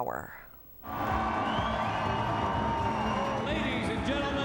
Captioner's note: crowd cheering